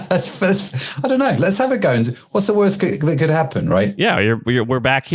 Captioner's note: laughs